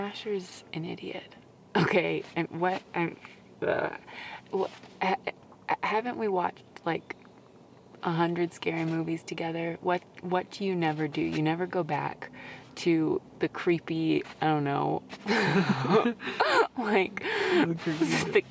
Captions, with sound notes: - Asher is an idiot, okay? What, I'm, ug... (stammers) Haven't we watched like 100 scary movies together? What, what do you never do? You never go back to the creepy, I don't know, (laughing) like, - The creepy place.